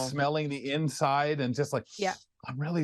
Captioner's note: sniffs